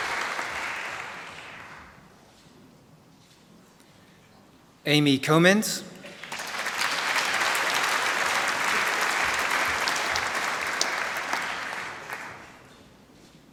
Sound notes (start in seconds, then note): 0.0 applause; 6.0 applause